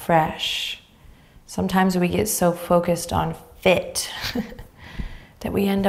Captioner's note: chuckles